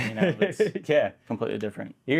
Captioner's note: laughs